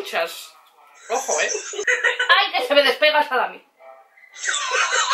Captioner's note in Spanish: risas